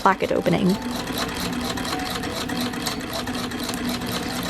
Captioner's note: machine clacking